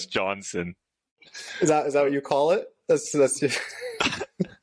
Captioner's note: laughter